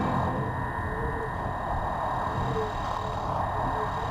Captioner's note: metal doors clanking; electronic whirring